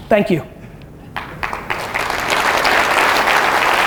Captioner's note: audience applause